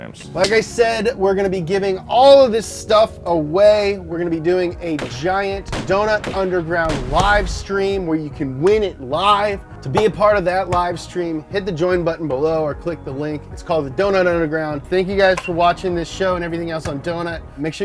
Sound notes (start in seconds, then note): none